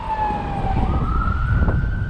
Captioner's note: police siren